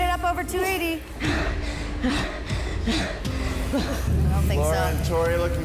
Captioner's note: wheezes